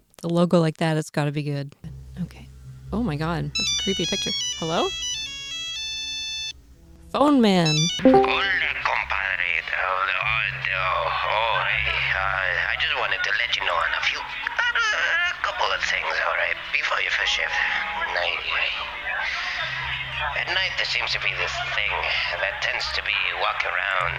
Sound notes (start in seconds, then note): 4.9 cell phone ringing; 8.5 heavy Spanish accent